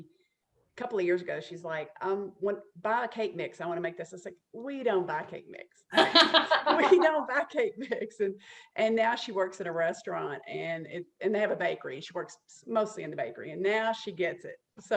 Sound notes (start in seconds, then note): 5.9 laughter